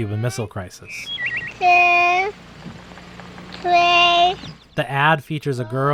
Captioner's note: child counting